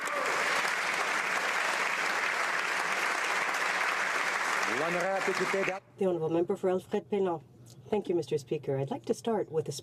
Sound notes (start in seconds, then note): 4.5 some Applause